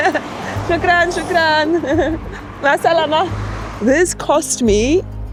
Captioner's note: speaks foreign language